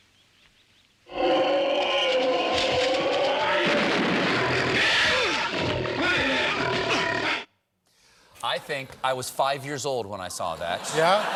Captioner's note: bear growling